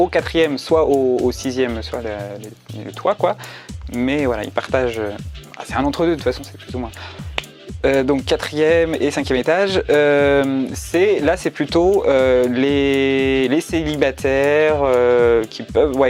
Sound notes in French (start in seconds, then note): 7.2 clap